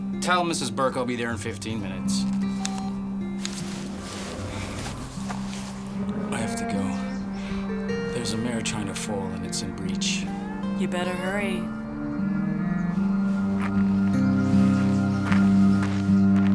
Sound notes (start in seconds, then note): 2.3 phone beeping; 12.7 light orchestral music